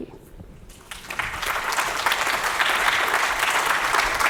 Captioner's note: audience applauds